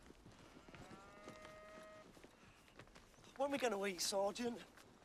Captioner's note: cows moo in distance